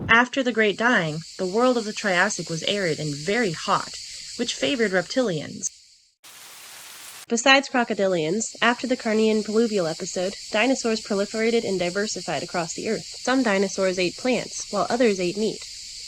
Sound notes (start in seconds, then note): 6.2 rain sounds